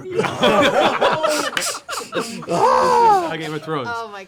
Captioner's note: laughter